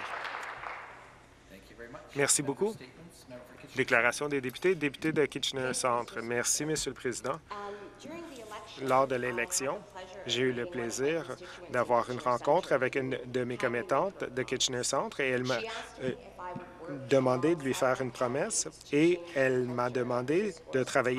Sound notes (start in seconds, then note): 0.0 applause